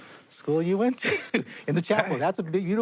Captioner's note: chuckles